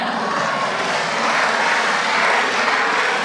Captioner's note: applause